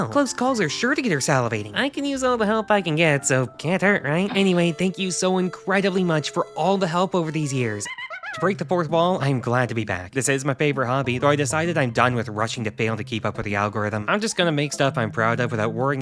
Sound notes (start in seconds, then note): 7.3 pause sound effect